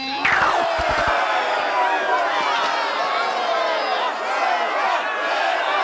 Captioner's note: angry chatter